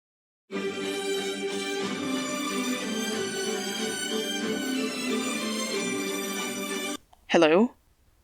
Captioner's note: phone rings